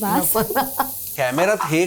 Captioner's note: chuckles